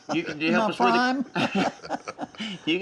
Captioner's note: laughs